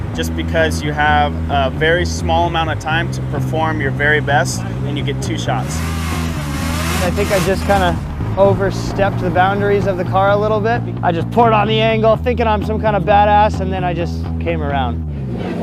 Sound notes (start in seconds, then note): 6.2 engine revving